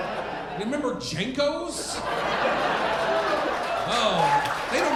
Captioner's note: audience applauding